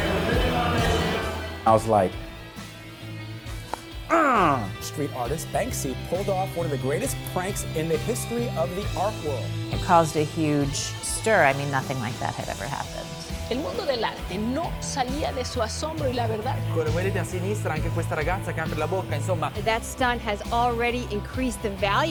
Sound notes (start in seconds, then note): 13.5 speaking in foreign language